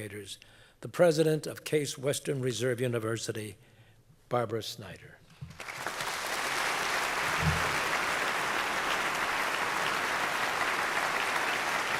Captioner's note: applause